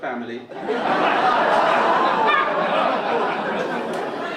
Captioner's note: audience laugh